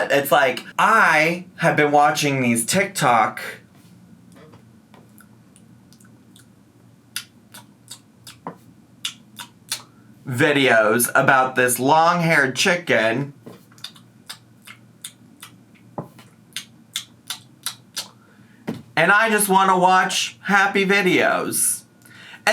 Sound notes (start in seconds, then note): 5.8 smacks lips; 14.0 smacks lips